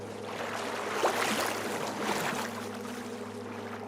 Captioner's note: water sloshing